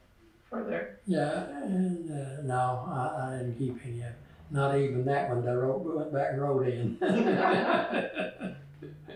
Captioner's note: laughter